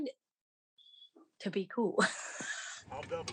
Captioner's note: laugh